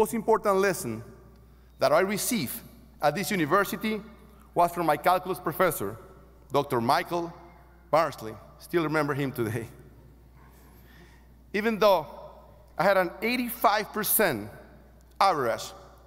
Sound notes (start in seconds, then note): none